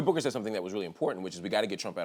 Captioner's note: none